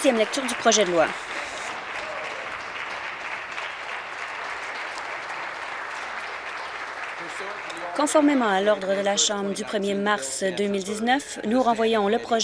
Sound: applause

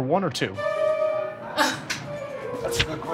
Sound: laughs

